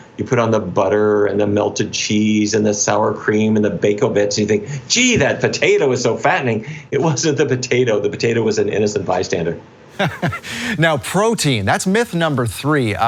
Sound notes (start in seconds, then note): 9.9 chuckles